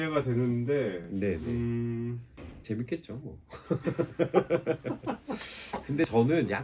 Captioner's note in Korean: 웃음